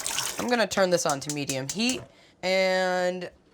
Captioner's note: water running; stove clicking